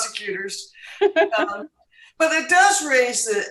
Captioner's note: laughs